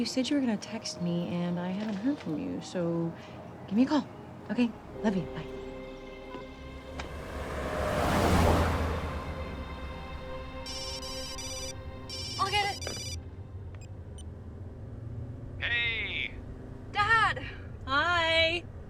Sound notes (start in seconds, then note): 12.0 phone ringing